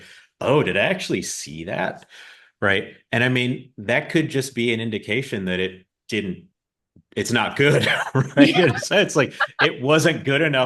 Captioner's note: both laugh